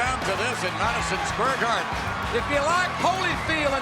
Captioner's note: crowd screaming and cheering